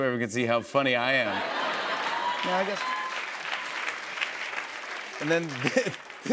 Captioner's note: laughter and applause